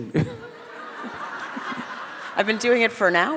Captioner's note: all laugh